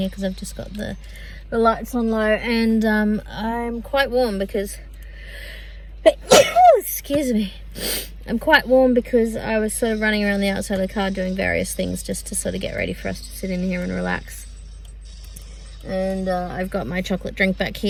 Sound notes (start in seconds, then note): 6.1 sneezes; 7.8 sniffs